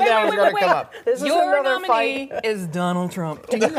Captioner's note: laughter